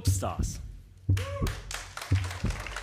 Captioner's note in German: Applaus